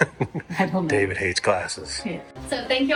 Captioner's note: laughs